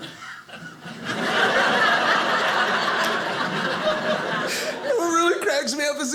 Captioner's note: audience laughing